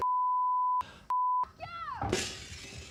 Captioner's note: objects clattering; glass shattering